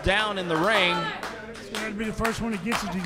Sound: audience clapping

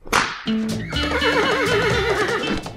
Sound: realistic horse sound

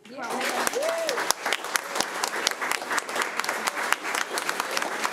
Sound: crowd clapping and cheering

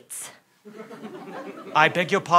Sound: laughter

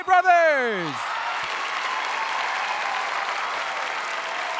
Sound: audience cheering

